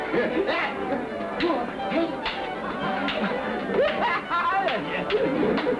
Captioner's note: clapping hands